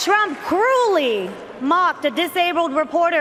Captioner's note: cheers and Applause